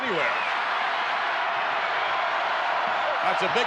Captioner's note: crowd cheers